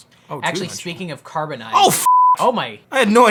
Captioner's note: beep